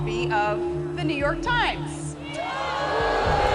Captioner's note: crowd booing